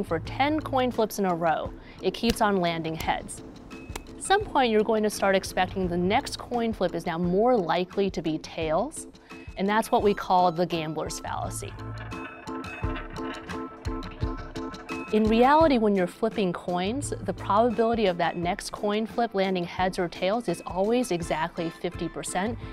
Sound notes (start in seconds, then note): 11.6 coin spinning; 13.7 upbeat music